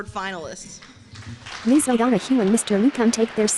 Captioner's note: applause